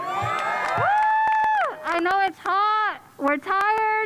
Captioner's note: cheers and applause